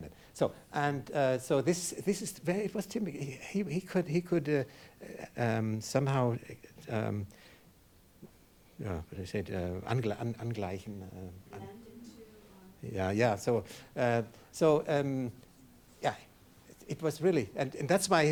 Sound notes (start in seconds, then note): 9.6 speaking in foreign language